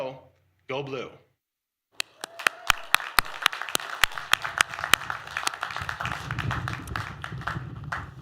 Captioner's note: applause